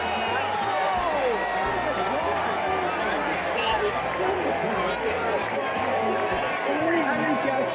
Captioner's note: crowd Erupts